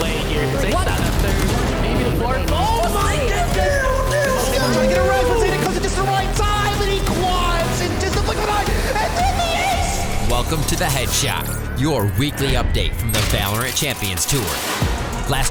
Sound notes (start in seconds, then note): 1.9 gun shooting; 4.0 gun shooting